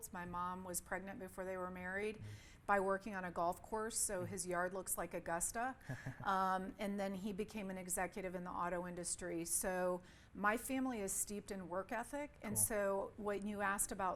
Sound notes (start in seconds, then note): 5.9 chuckles